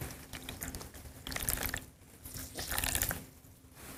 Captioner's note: water trickling